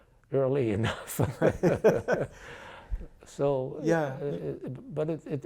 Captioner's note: laughing